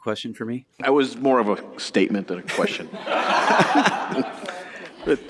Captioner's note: laughter